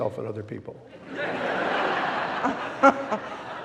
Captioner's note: audience laughing; laughing